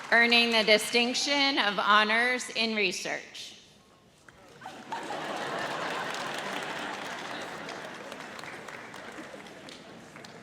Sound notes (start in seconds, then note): 4.6 audience laughs